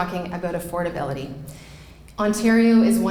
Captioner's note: none